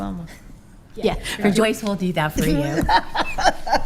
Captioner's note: laughing